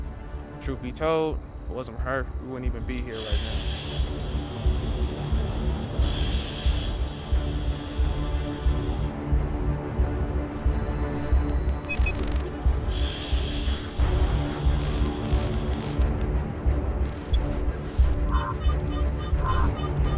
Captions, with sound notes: Truth to be told, if it wasn't for her we wouldn't be even here right now. [dark music rises] [radio static] [robotic beeping] [robotic beeping increases]